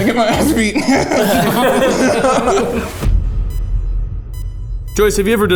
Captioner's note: everyone laughing